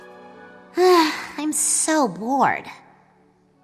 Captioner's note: sigh